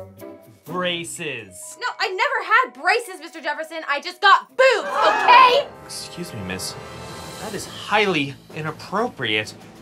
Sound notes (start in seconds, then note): 5.4 gasps